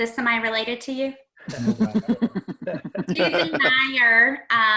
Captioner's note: laughing